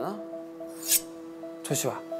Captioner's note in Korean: 스-윽